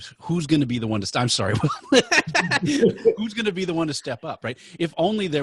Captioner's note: laughing